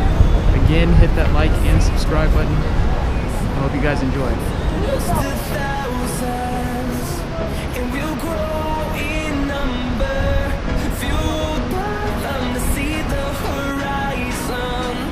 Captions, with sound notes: Again hit that “Like” and Subscribe button. I hope you guys enjoyed. [Sound of rushing water]